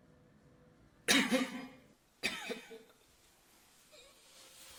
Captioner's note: coughing